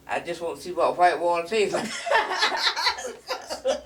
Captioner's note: laughing